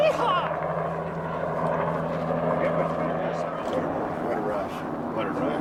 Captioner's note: helicopter blades whirring